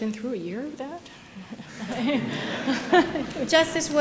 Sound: laughter

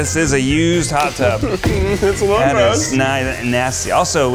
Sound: laughs

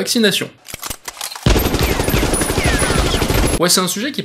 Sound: sound of machine guns

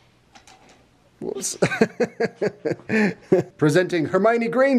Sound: laughs

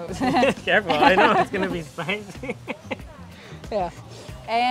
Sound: laughs

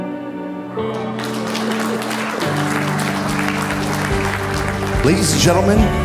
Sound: clapping

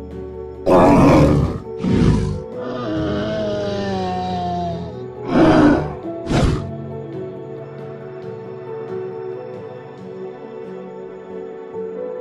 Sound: triceratops sounds

